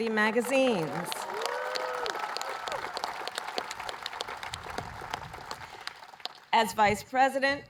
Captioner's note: applause